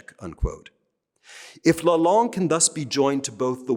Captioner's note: speaking french